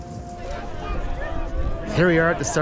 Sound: people chattering

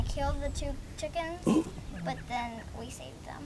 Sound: gasp

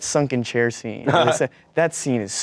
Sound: laughs

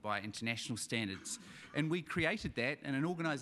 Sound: audience chuckling

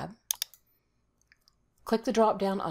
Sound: mouse clicks

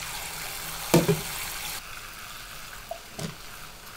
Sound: water running

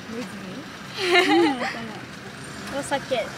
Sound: laughs

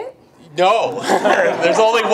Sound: group laughs

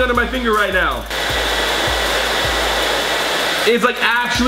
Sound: blow dryer whirring

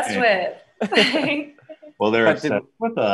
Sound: laughing

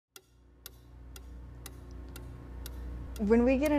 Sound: ticking

